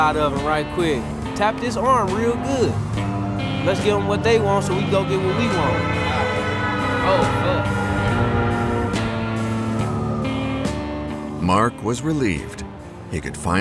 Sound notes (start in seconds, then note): 6.6 horn blaring